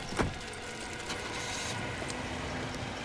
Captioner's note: engine starts